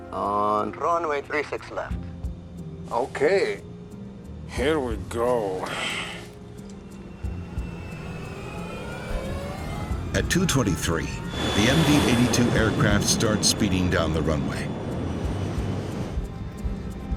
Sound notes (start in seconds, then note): 7.2 engines whine